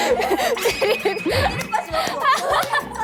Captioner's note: tingling